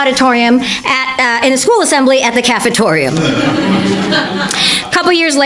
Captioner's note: audience laughter